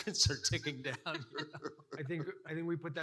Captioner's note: laughing